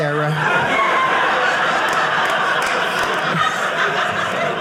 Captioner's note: audience laughing